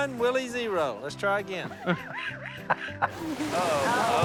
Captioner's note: Si laughs